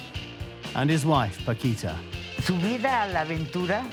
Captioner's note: in Spanish